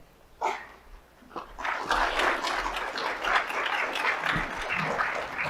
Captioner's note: audience applauds